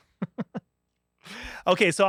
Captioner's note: laughs